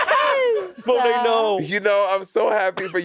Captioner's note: Monét laughing